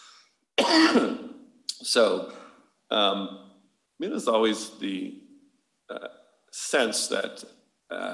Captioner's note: coughs